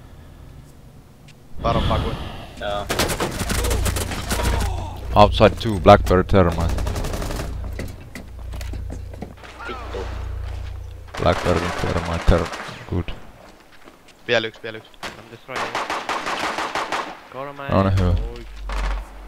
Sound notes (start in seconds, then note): 1.7 sigh